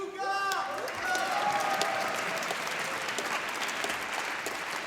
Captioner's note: applause